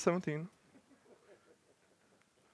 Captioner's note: laughter